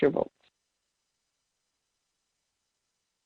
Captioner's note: silence